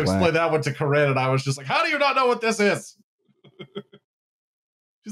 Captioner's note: chuckles